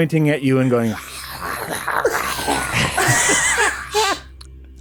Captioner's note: guttural, feral noises